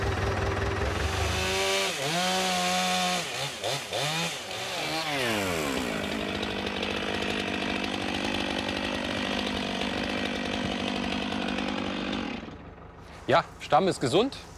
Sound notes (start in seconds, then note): 6.8 chainsaw noises